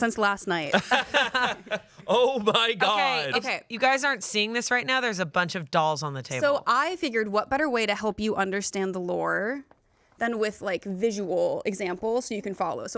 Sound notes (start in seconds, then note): 0.7 laugh